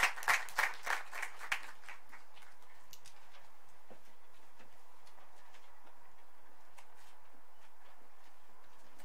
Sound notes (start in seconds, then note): 2.9 applause